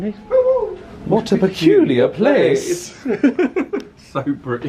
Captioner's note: laughs